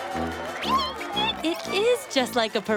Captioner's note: squeaking